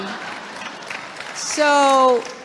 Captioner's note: laughter